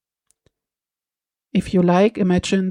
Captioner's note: short pause